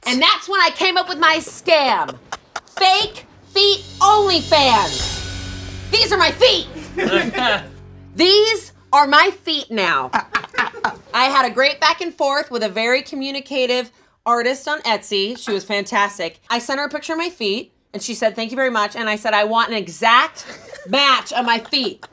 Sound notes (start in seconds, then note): 10.1 chuckles